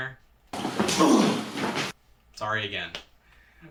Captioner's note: grunting